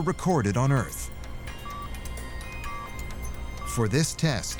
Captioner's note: machine continues beeping